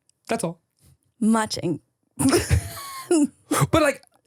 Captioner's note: laughs